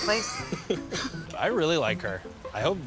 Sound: laughing

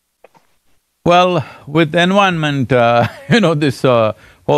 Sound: laughs

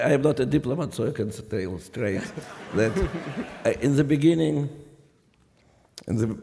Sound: laughter

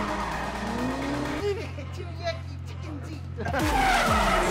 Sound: in a reganism accent

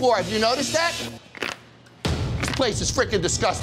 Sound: sticky floor sound

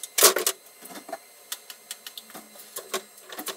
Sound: objects falling; high-speed mouse clicks

